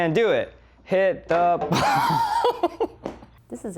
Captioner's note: laughs